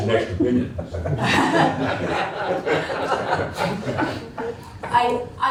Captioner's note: laughter